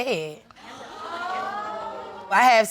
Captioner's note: audience murmuring